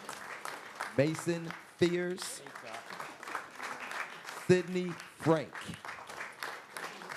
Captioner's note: applause